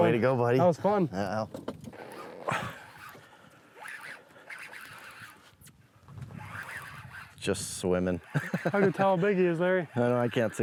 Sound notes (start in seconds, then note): 3.4 fishing line reeling; 8.2 laughs